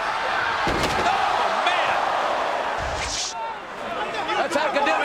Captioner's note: Undertaker thudding